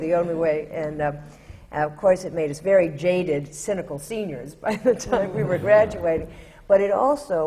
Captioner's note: laughs